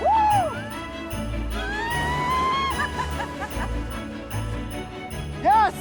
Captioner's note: shouting, laughing